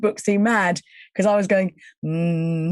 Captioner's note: humming